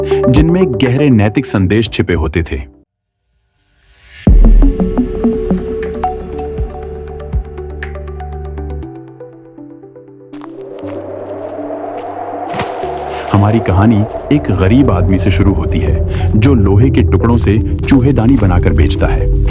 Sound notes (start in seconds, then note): 4.3 intro Music; 12.9 wind-blowing